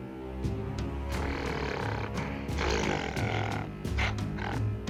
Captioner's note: Gargantus growls